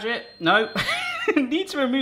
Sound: laughing

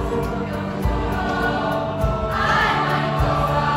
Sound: voices

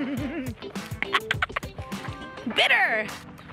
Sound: chuckles

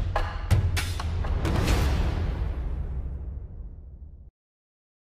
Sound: air whooshing

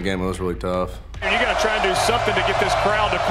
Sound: voiceover

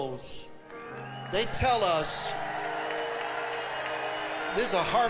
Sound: audience cheering

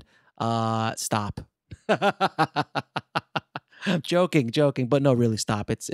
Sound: laughs

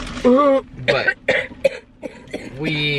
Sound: coughing

